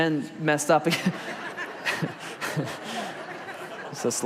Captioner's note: congregation and laugh